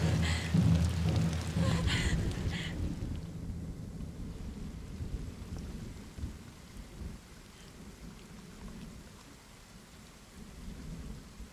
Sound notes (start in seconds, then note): 0.2 Morgana whimpers; 4.1 rain slaps